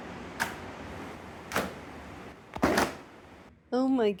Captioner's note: clothes loudly slapping the ground